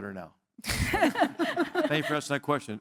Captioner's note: laugh